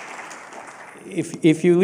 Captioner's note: applause